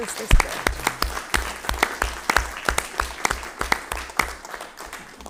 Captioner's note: all applauding